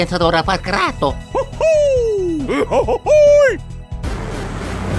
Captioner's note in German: Aufgeregte Affengeräusche